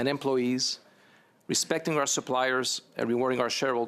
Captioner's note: speaking English